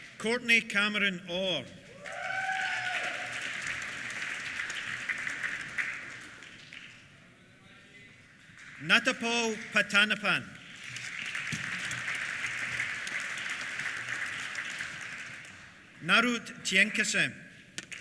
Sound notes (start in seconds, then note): 1.9 cheers; 1.9 applause; 10.9 applause